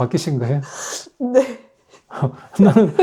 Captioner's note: laughs